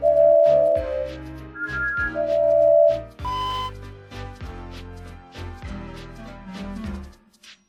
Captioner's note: engine whistles